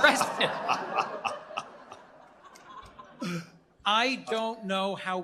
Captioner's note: laughter